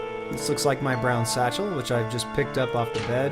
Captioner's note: ding